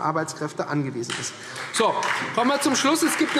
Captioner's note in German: Beifall Freie Demokraten